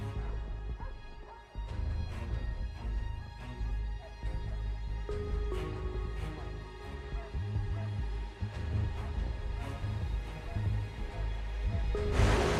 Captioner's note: dogs barking